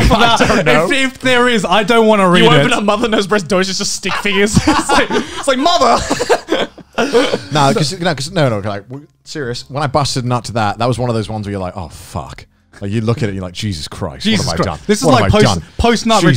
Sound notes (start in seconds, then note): 6.9 murmurs